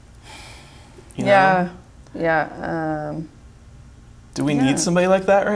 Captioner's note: sighs